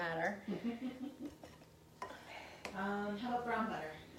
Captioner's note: laughing